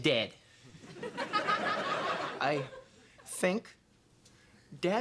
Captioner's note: stammering